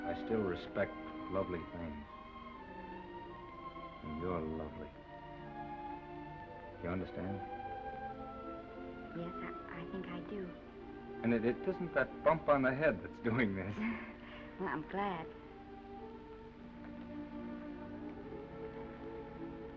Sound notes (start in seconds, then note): 13.8 Esther laughs; 15.7 gentle music